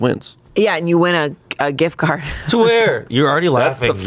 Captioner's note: chuckles